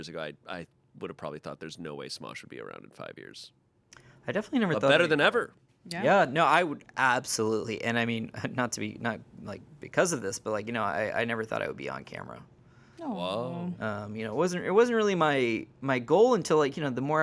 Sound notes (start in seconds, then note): none